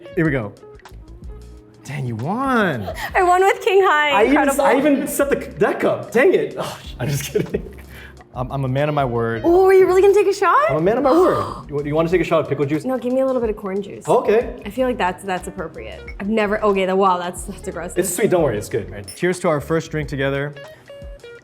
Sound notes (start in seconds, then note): 2.8 Arden laughs; 6.6 scoffs; 11.0 Arden gasps